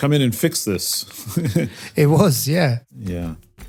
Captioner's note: laugh